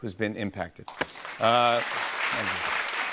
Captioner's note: applause